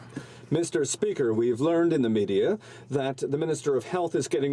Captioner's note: speaking French